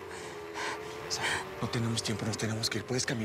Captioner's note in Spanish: sonido de motor acelerado